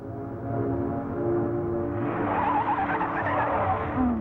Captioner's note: tires Screeching